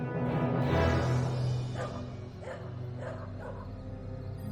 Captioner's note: distant dogs barking